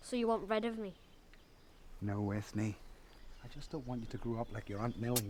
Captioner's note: none